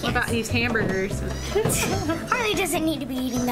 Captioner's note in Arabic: ضحك